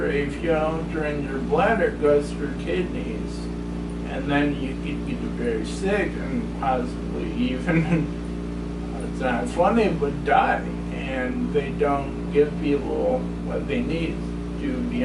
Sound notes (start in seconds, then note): 7.5 chuckles